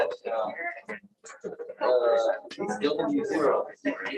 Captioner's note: background chatter